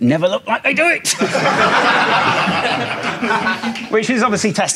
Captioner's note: audience laughs